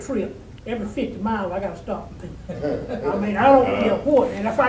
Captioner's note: audience laughing